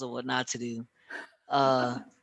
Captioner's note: chuckles